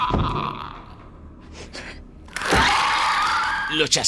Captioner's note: groan